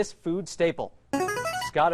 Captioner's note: ringer